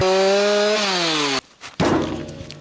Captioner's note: engine roaring; buzzing; thumping